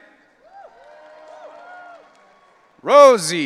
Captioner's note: audience cheering